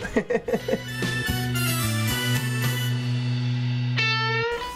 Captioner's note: laughing